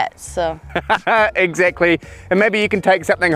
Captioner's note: laughs